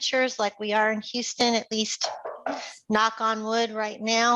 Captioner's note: knocking